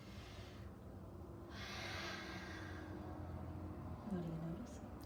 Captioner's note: exhaling deeply